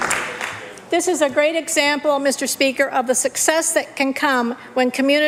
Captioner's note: applause